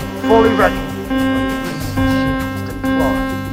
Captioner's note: sirens and flashing lights